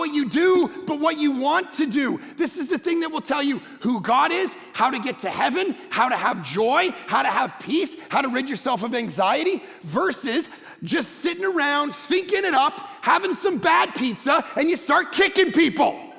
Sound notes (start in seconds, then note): none